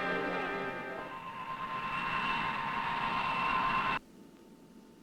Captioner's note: airplane engine whooshing